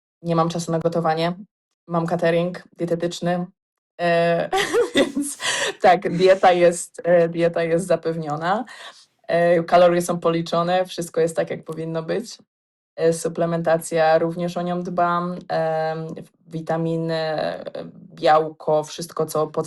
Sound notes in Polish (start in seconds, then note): 4.5 śmiech